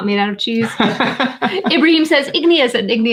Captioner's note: laughing